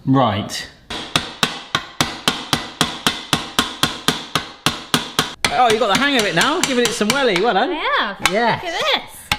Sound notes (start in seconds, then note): 0.8 loud hammering